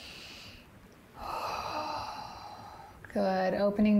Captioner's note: inhales; exhales